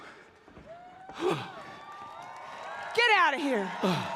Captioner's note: applause